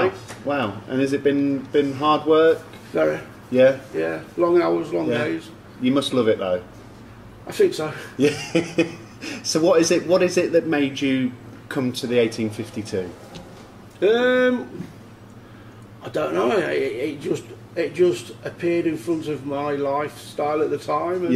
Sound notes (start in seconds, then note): 8.1 laughs